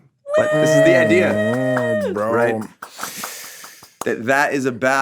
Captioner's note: cheers